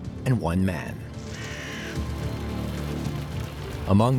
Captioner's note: bird cawing, sounds of flames